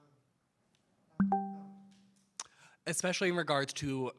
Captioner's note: computer chimes